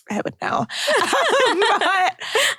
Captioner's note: laughs